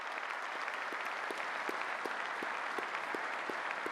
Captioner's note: applause